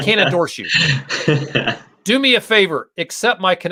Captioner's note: laughter